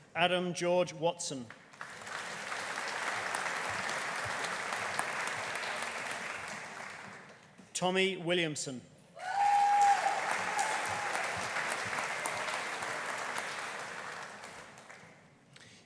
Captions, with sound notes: Adam George Watson. (AUDIENCE APPLAUDING) Tommy Williamson. (AUDIENCE CHEERING) (AUDIENCE APPLAUDING)